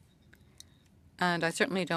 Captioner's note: speaking French